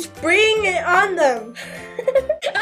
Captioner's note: laughter